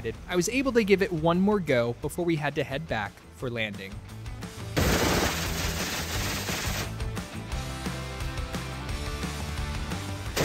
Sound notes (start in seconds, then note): 4.4 upbeat music; 4.8 gunshot cracking